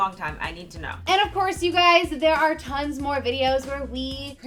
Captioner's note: whooshing